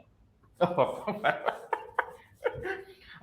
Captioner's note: laughs